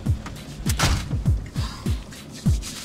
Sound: door slams

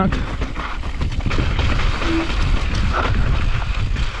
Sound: bike clattering

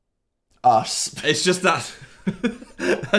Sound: laughing

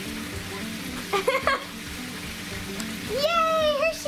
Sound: laughs

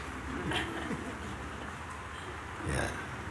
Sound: laughter

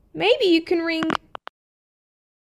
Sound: click!

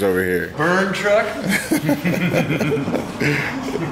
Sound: laughing

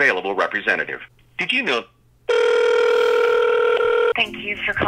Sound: phone ringing; cheerful music

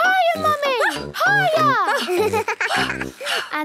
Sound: giggles; panting

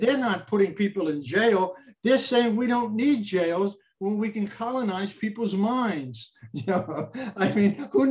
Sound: laughs

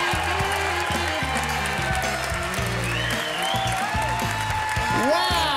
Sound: applause, cheering

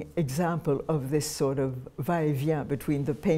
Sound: speaking french

